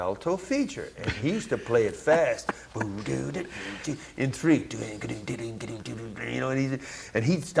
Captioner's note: humms